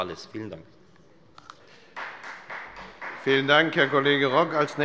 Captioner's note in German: Beifall der Abg